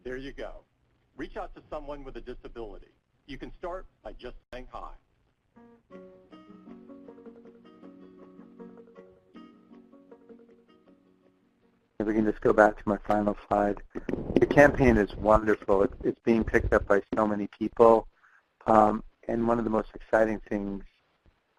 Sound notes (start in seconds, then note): 0.2 voiceover; 6.4 upbeat music; 12.1 voiceover